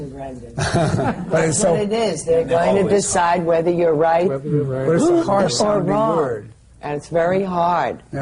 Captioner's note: laughter